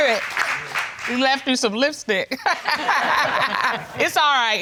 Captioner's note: laughing